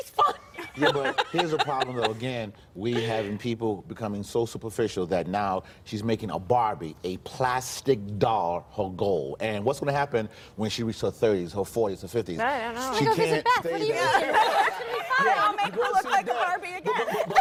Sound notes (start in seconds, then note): 2.8 laughter